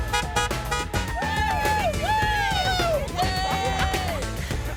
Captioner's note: car horns honking; people cheering